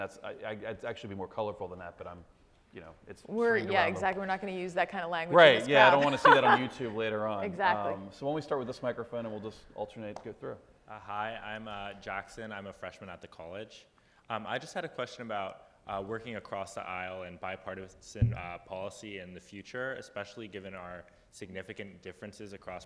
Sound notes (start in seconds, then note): 5.9 laughs